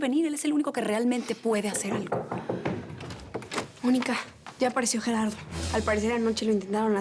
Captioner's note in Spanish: toques en la puerta